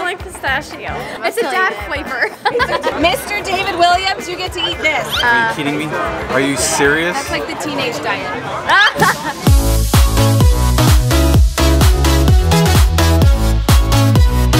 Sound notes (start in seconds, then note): 8.6 laughing; 8.8 upbeat music